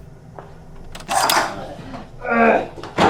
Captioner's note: door clicks open; Miles groans